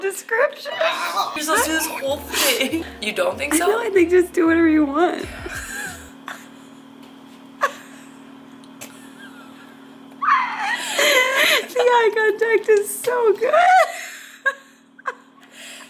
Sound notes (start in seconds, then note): 5.1 laughing